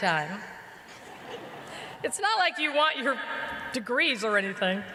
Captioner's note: laughter